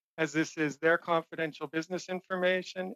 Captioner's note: speaking French